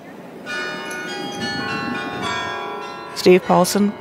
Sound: bells chiming

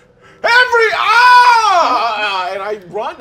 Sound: screams

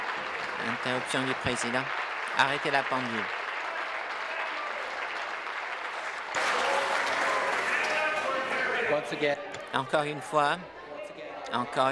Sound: applause

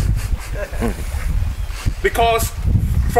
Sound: laughing

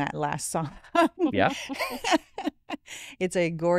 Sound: laughing

